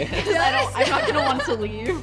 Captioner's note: laughing